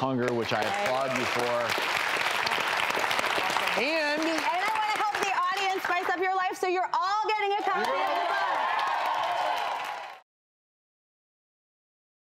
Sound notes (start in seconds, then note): 2.7 applauding; 7.5 cheering